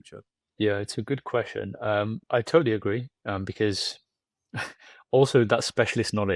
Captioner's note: laughs